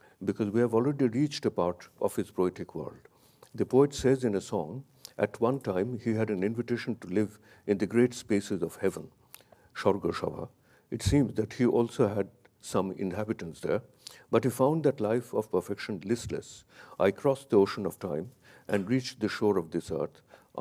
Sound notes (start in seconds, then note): 9.8 speaks in a foreign language